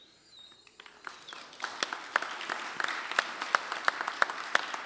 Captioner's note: applause